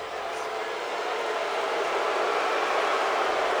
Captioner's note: crowd booing